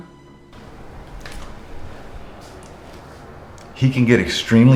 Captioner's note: glasses thud